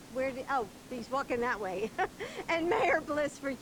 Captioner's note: laughing